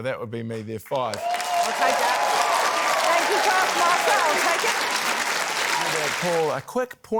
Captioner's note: cheering, applause